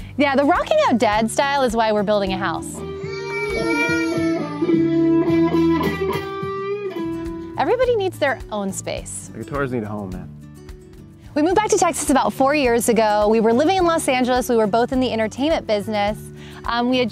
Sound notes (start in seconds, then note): 2.8 baby crying; 3.0 upbeat guitar music